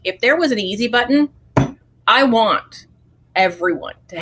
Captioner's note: hits table